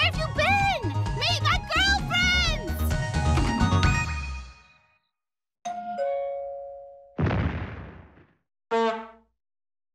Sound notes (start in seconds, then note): 5.6 doorbell; 7.2 explosion